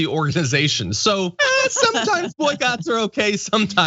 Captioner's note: laugh